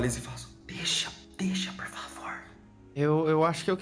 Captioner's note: whispering